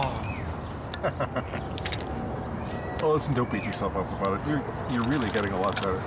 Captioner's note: laughs